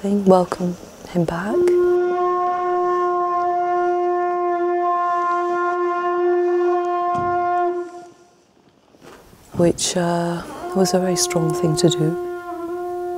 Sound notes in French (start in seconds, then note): 1.3 sonnerie de la conche